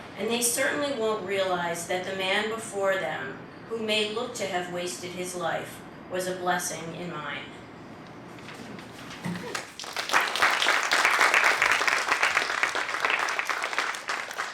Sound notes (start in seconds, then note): 9.4 applause